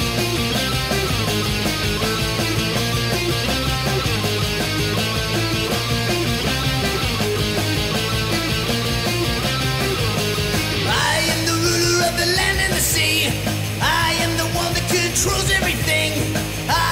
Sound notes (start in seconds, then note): none